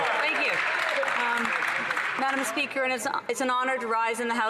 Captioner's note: cheering and Applause